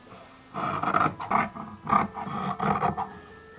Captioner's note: scissor sounds